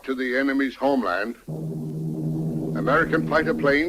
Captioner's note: plane engines revving